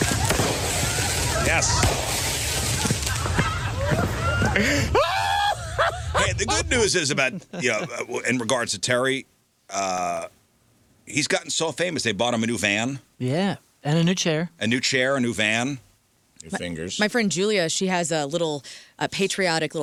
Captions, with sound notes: Yes. (screaming) The good news is about, in regards to Terry, he's gotten so famous they bought him a new van. Yeah, and a new chair. A new chair, a new van, new fingers. My friend Julia, she has a little patriotic,